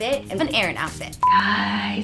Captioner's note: beep